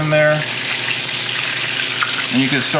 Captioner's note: food sizzling